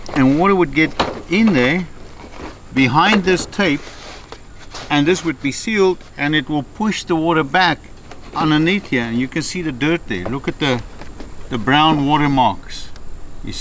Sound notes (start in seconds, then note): none